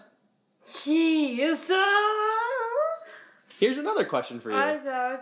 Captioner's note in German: lacht